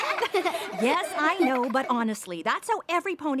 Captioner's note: laughter